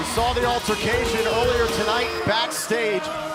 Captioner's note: crowd cheering